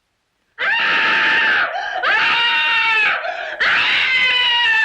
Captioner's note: Victoria screaming